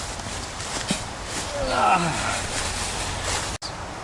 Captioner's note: groaning